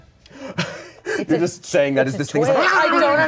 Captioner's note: yells